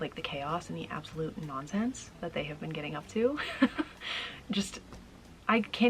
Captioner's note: laughing